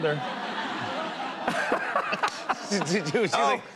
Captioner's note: laughter